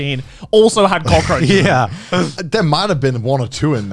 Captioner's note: laughs